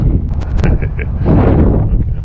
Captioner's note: laughter